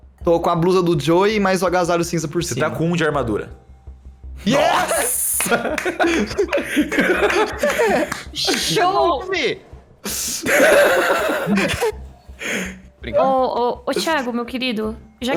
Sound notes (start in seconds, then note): 5.3 clapping in the background; 10.1 laughing